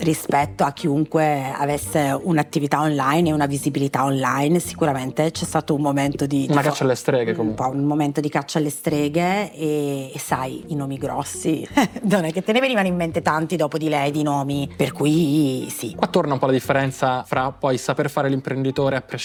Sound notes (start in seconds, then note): 11.8 chuckle